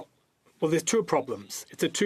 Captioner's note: speaking French